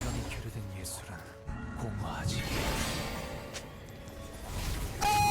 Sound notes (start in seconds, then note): 2.3 Rengar Palace sound